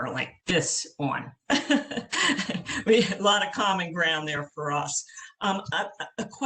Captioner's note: laughter